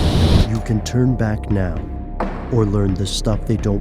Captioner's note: voiceover